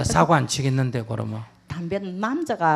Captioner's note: questioner Laughter